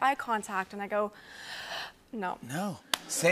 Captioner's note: inhales deeply